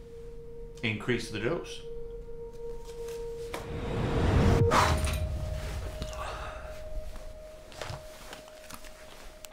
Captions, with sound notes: - Increase the dose. (sighing)